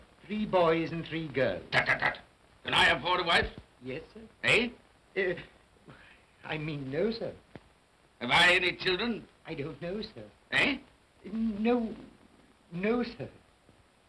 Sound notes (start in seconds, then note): 5.1 Cratchit stammers